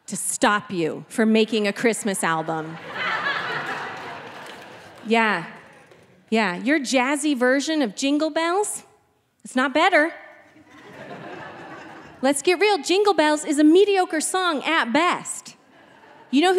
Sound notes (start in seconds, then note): 2.2 audience laughing